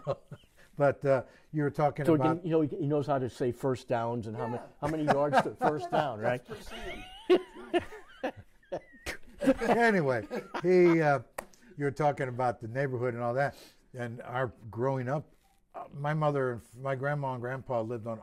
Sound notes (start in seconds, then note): 6.6 laughter; 8.9 slap; 9.7 laughter